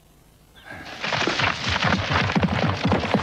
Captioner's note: horse galloping